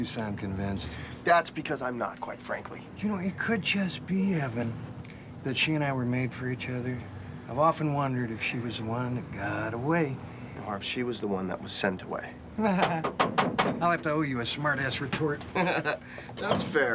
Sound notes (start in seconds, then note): 12.8 knocking on door; 15.4 laughs